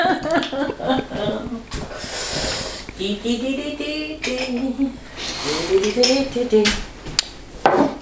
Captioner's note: laughing; tuneless humming